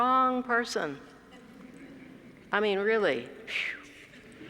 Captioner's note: laugh